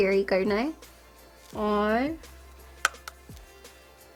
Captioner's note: taps brush